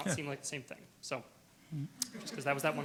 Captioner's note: room laughs